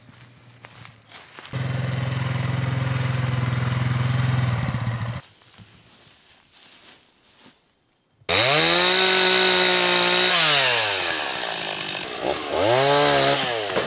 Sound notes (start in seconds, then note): 8.3 chainsaw rumbling